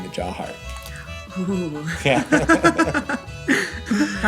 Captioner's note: laughing